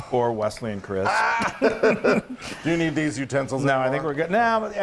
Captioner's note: laugh